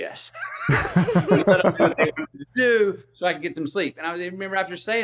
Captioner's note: laughs